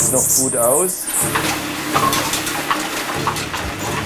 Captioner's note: clattering